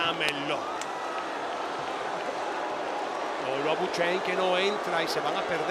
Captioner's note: applause